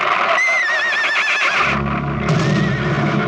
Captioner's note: horse neighing